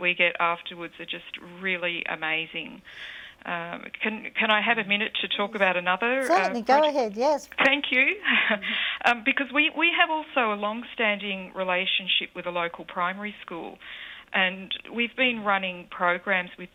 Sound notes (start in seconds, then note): 8.0 voiceover